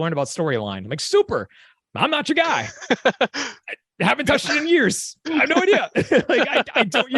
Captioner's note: chuckle